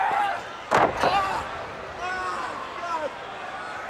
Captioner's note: body slamming